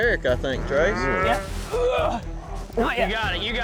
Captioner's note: grunting